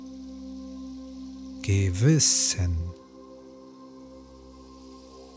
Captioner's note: german